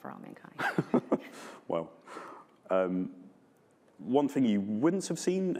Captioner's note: chuckles